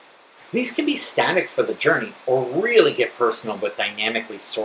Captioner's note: Static